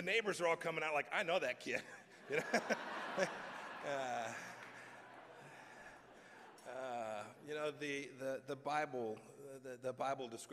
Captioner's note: laughter